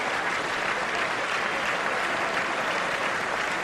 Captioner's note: applause